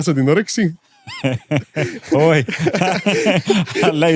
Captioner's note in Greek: γέλια